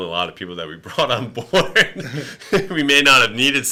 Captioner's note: laughing